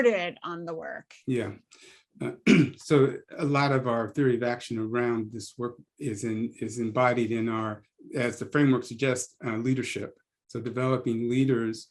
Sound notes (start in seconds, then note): 2.2 cough